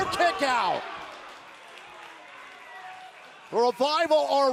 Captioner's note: crowd cheering